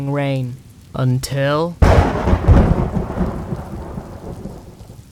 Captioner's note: thunder strikes